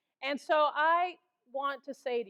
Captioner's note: none